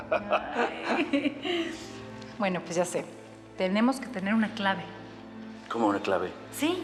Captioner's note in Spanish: risas